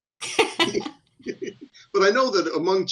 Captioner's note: laughs